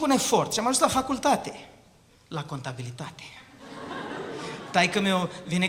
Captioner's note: laughter